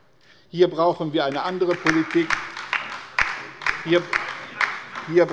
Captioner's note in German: Beifall bei der LINKEN